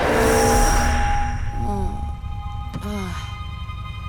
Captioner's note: groaning